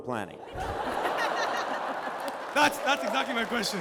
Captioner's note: laughter